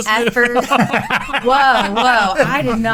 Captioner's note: laughing